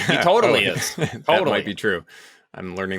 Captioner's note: laughs